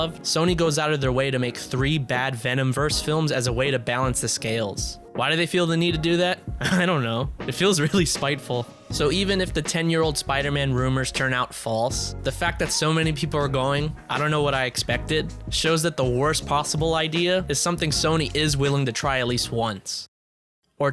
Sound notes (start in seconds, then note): 6.6 laughs